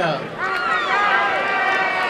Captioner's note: applause and cheering